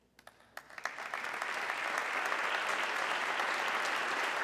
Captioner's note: audience clapping